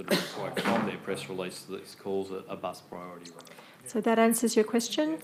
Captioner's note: speaks faintly